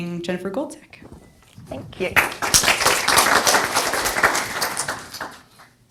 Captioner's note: audience applauds